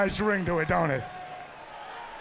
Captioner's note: crowd cheering